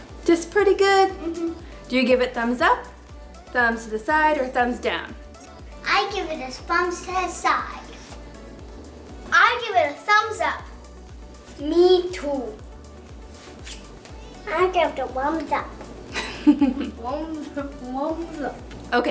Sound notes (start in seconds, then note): 16.1 laughs